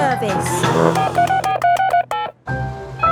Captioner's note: beeping